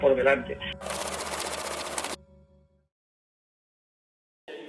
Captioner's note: numbers ticking